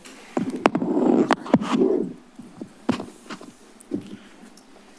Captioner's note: microphone tapping